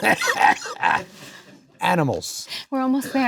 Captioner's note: Adam coughs